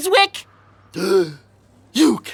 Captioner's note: gasping